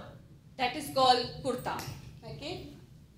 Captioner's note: speaking foreign language